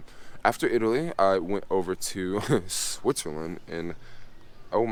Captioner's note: chuckles